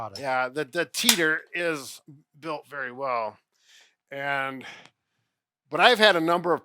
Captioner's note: lock clicks